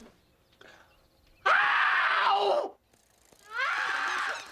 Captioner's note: man screaming